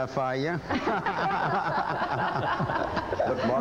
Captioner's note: laughs